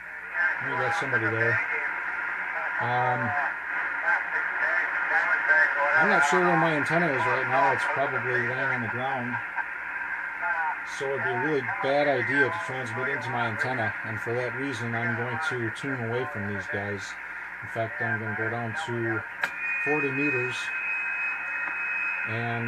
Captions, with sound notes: We've got somebody there. [receiving radio signals] I'm not sure where my antenna is right now, it's probably laying on the ground. So it would be a bad idea to transmit into my antenna. For that reason I'm going to tune away from these stations and go to 40 meters and find